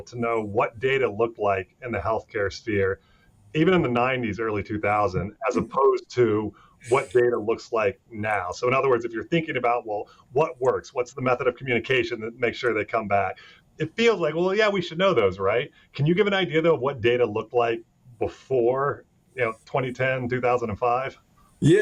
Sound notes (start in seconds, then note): 5.5 laughing